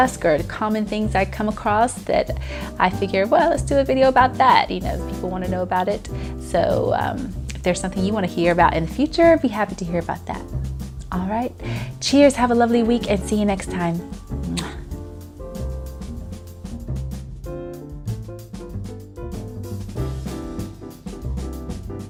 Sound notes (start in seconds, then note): 14.4 kissing sound; 16.5 gentle music